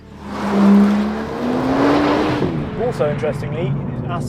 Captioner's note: car zooming